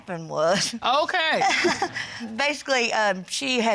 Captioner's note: chuckles